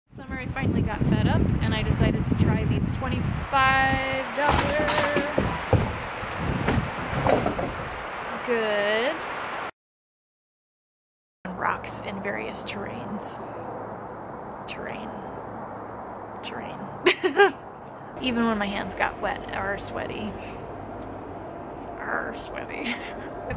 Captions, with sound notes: ... This summer I finally got fed up and I decided to try these twenty five dollar... (loud crash) (second crash) Good... ...rocks in various terrains. Terrain. Terrain. Even when my hands got wet "ar" sweaty ... "arr" sweaty